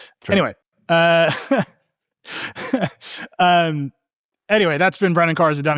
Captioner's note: laughing